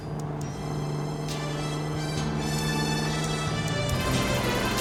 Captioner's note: motor buzzing; upbeat music